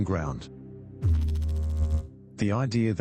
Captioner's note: electrical noise